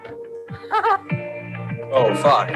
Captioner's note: laughs